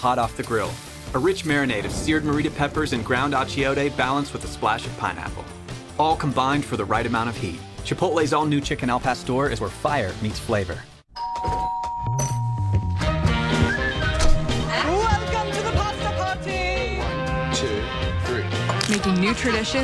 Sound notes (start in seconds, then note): 11.1 door bell